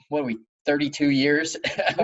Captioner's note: laughs